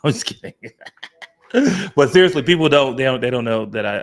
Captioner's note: laughing